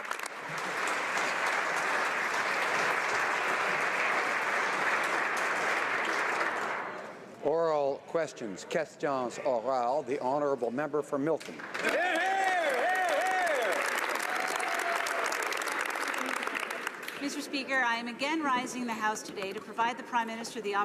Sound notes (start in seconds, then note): 3.1 applause; 11.4 speaking French; 14.9 some Applause